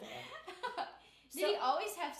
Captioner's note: laughing